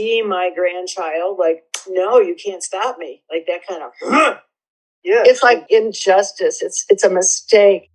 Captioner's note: guttural grunting sound